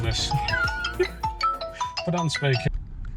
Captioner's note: phone rings